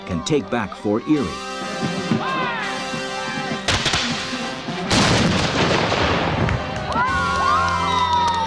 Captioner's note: cannon fire and explosions